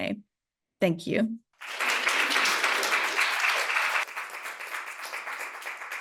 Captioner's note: audience clapping